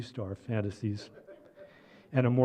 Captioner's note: laughter